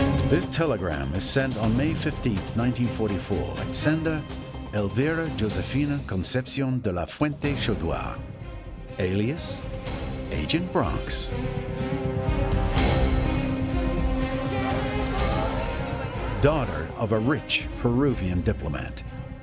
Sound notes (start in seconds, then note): 14.4 indistinct excited voices